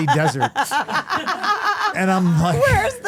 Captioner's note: Stephanie laughing